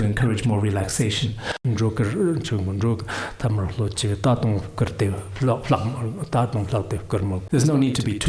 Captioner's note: giving oral transmission in Tibetan